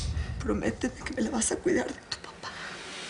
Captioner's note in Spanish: Susurra